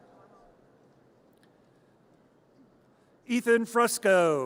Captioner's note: audience cheers